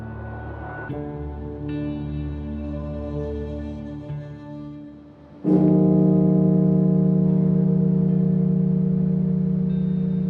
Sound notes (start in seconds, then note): 5.4 bell tolling; 7.6 somber music